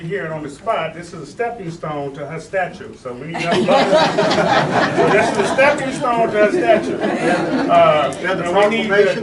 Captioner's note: laughing